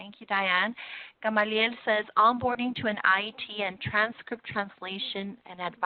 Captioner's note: spanish